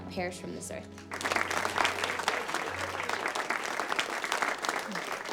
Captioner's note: class applauds